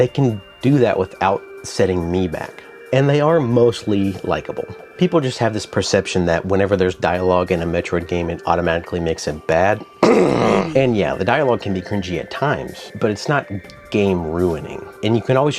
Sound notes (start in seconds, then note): 9.8 cough